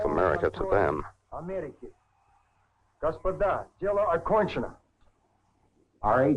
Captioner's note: speaks in Russian